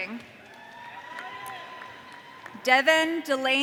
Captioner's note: audience cheering